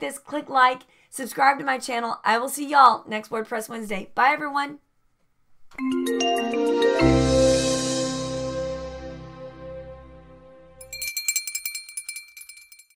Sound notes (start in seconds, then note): 5.8 digital music; 10.7 bell ringing